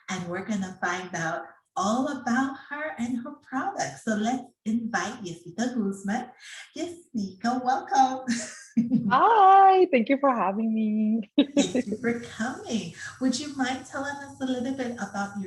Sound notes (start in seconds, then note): 8.3 giggles